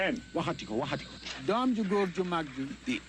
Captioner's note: foreign language